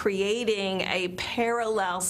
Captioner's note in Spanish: habla en inglés